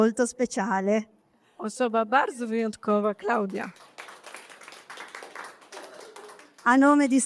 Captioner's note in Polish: Aplauz